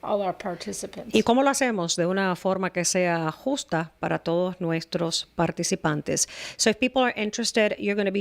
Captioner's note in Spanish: Hablando ingl\s